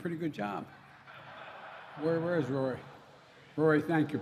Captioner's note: laughter